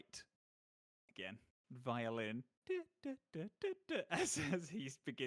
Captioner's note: imitating violin